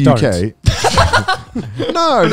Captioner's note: laughs